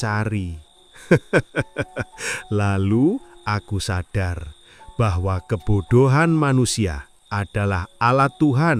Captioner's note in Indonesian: tertawa